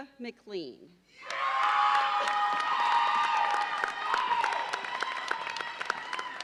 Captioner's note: audience cheers and applauds